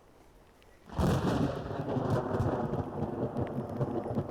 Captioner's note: thunder booming